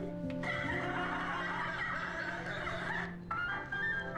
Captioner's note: laughing on TV